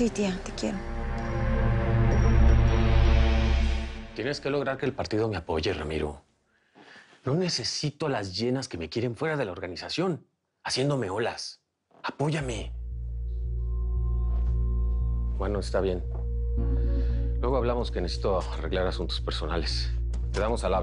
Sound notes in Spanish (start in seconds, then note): none